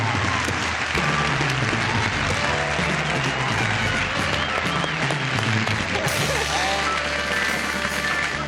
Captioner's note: applause